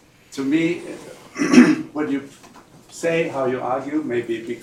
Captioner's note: clears throat